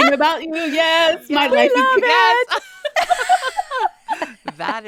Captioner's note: laughing